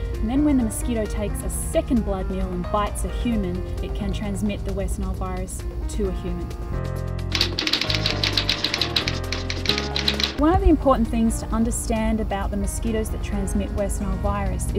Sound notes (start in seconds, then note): 7.3 sound of typing